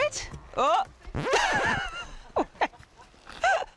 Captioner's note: record scratches; laughing